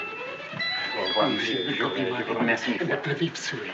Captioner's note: speaking french